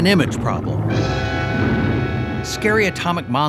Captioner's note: horn blaring